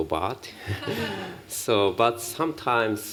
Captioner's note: laughs